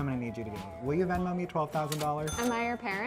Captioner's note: cash register dings